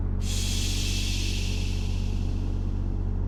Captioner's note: steam decompression hiss